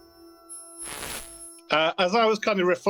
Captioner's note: static crackling